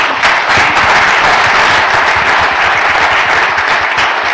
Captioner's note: applause